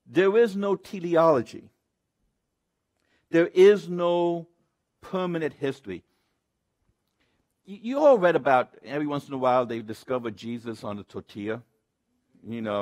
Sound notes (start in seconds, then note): none